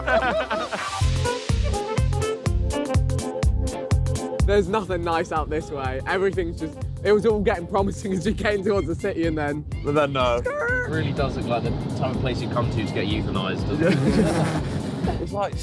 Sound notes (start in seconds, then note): 0.0 all laughing; 1.5 jolly music; 9.7 screeching noise; 13.8 all laughing